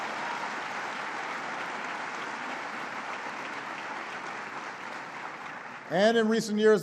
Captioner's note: applause